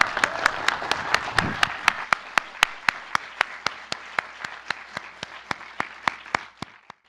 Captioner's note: applause